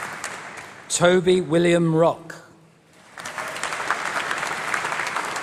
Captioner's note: applause